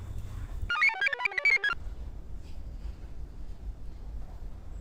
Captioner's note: computer chirps